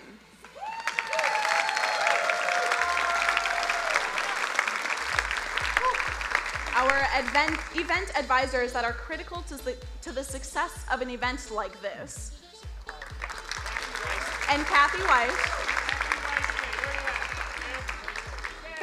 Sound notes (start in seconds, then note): 0.4 crowd cheering and applauding; 12.7 crowd applauding